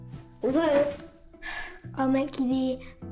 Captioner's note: sighing